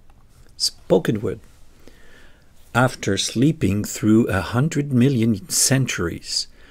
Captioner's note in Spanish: Palabra hablada